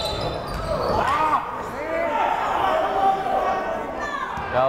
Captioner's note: whistle blowing; cheering